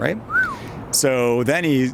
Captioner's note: whistles